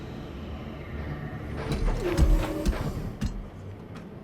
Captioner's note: thud sound